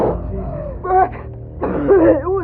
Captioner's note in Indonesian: Batuk